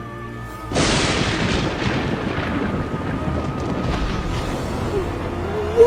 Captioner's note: lightning bangs and thunder rumbles